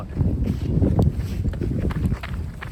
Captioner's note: wind blows; footsteps